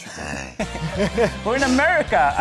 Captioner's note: laughing